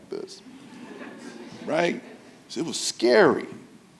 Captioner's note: audience laughing